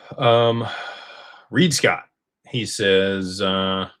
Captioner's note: sighs